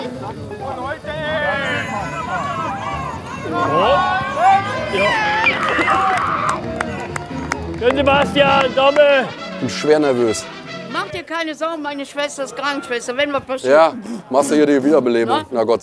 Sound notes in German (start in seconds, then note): 5.9 Aufgeregte Rufe